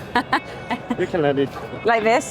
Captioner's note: speaker laughs